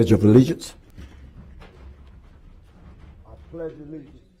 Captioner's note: moment of silence